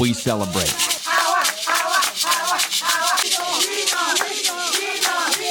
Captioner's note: women chanting